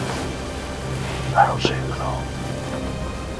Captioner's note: whispering